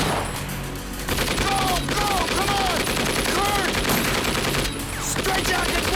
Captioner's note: guns firing